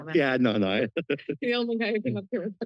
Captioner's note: laughs